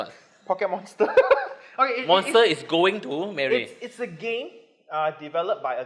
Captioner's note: laughs